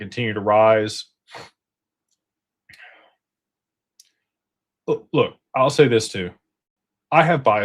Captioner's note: snorts